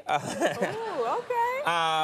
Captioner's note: Conan and audience laughing